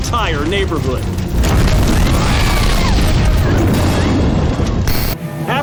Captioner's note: woman screams